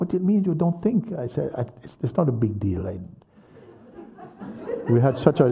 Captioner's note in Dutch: gelach